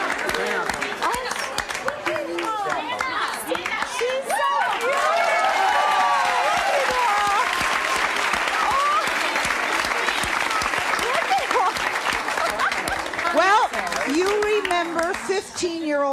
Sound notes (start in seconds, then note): 7.4 applause